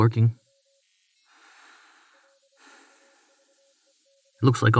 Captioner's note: the hiss of oxygen entering the module grows louder